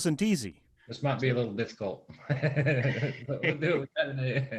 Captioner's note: laughing